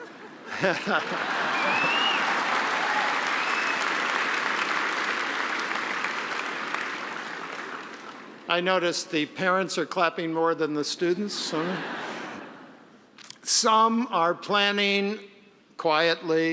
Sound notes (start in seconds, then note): 0.5 applause; 0.5 cheering; 13.1 laughing